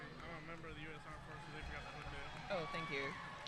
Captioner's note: speaking faintly